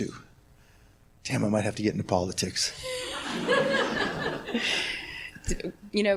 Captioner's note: laughs